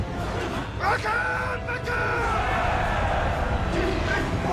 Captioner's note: shouts in dwarvish